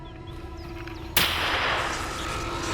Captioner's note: gunshot